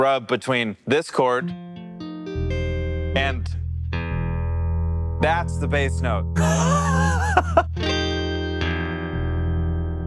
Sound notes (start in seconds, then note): 1.2 plays guitar; 6.4 laughs